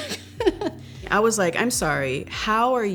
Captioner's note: laughs